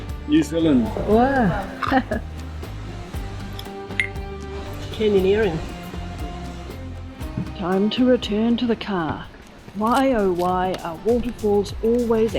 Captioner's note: glasses clink